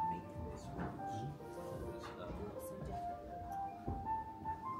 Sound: people chattering

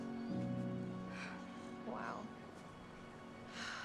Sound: sighs

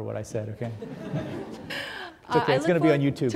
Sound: audience laughing

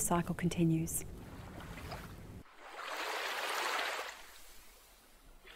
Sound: gentle flowing waves

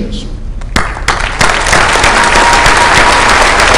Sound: applause

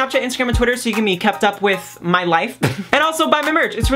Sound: laughs

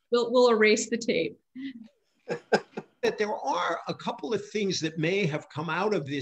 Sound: laughs

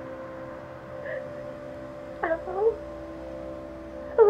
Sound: crying

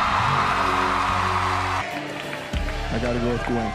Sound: music ends, cheers and applause

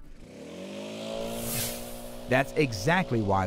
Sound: leaf blower whirring

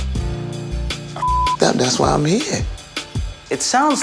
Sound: beep

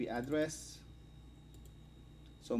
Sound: click

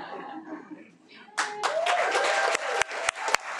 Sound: people laughing; audience clapping

